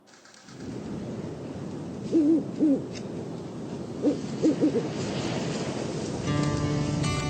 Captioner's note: wind blowing trees, owl hooting